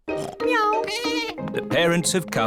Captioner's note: snorts; bleats; meows